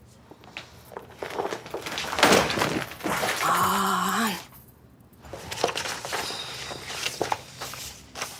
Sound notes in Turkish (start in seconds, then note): 1.0 Kâğıt dökülme sesi; 5.3 Kâğıt sesi